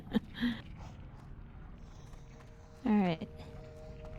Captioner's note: laughs